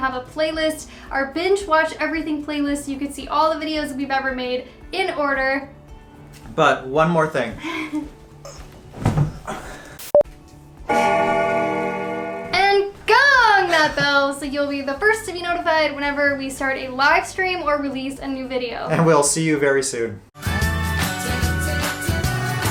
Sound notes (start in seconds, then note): 10.9 bell ringing